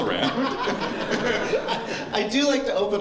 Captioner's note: laughter